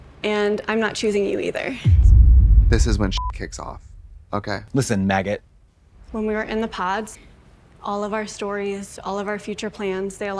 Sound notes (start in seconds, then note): 3.0 beep